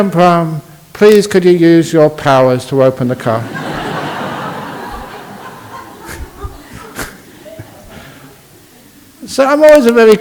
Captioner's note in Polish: Laughs